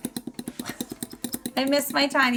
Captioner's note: fork scraping